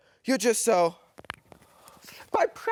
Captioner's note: inhales